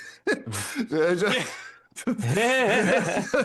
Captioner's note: both Laughing